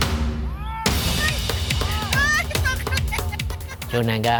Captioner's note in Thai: เสียงหัวเราะ